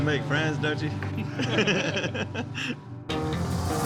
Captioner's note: everyone laughs